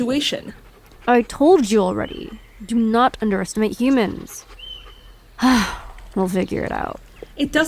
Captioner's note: sighs